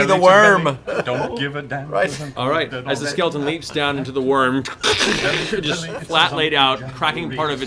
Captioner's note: crash